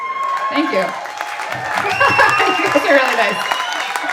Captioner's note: laughing; audience applauding and cheering